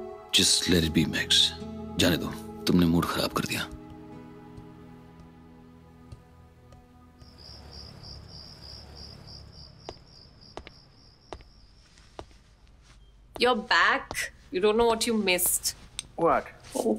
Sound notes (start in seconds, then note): 8.4 Footsteps